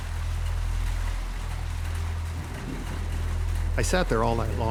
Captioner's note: rain thudding